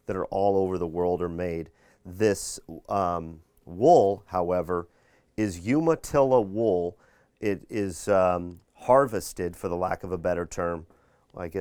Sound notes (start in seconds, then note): none